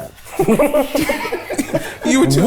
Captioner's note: everyone laughs